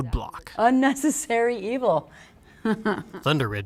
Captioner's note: laugh